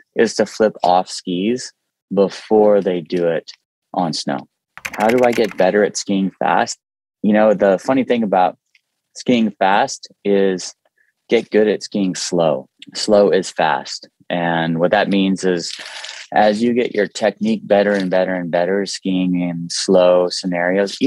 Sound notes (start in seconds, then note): 4.8 keyboard clicking